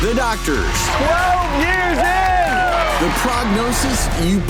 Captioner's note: crowd cheering